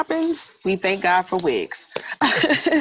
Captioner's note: laughs